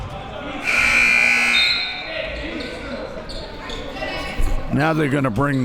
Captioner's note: buzzer sounding